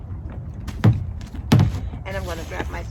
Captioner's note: hatch cover thudding